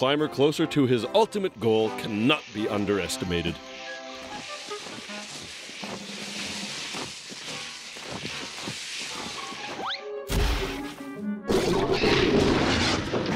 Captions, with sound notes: ITS USEFULNESS IN BRINGING THE CLIMBER CLOSER TO HIS ULTIMATE GOAL CANNOT BE UNDERESTIMATED. (growling, clattering)